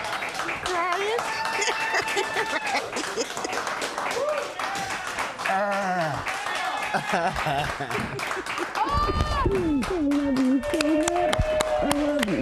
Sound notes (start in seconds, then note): 2.8 applause